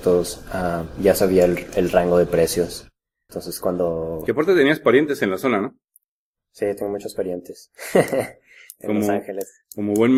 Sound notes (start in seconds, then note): 7.8 laughs